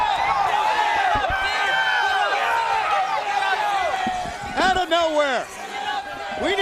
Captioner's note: crowd cheering